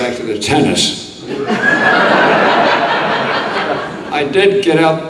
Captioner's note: audience laughing